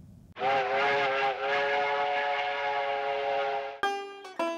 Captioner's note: train horn blowing; banjo playing